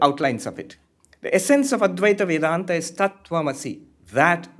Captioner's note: hindi